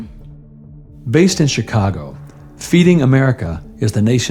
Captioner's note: voice-over